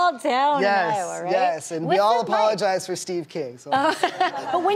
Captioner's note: laughing